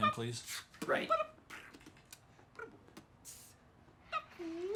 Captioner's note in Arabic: بيتبوكس